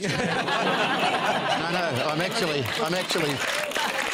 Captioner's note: laughter